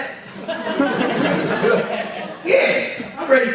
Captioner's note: audience laughs